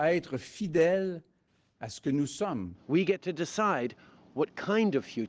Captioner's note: speaking French